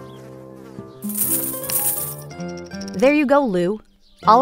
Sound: coins jingling

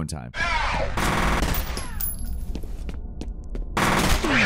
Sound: rapid gunshots

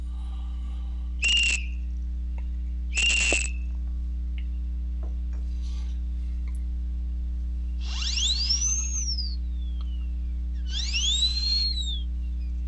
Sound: high Pitched Noise Maker; whistle

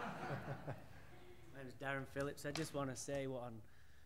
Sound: laughter

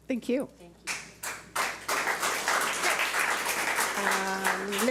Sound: audience applauds

